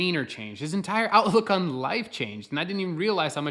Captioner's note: chuckles